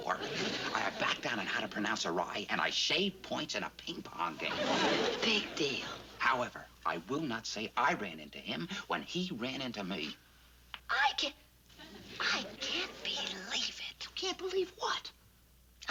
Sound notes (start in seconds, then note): 10.5 raises voice; 11.9 whispering